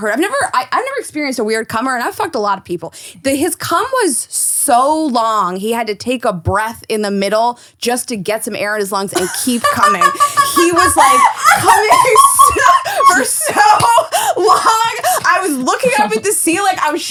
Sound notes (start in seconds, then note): 10.1 laughing